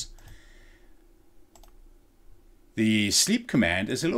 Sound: computer pecking

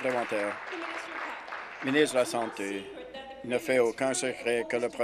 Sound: applause

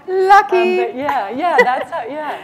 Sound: laughter

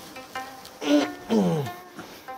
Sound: grunting

